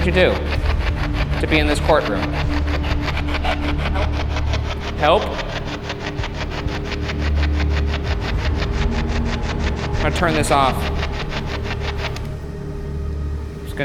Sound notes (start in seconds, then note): 3.2 spirit box chattering; 6.1 static buzzing